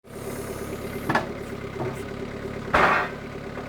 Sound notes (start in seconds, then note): 0.0 engine roaring